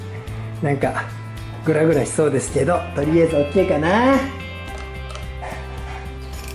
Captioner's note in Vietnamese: cười